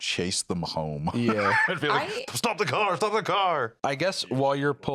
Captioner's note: laughs